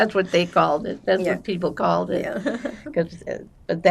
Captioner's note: laughing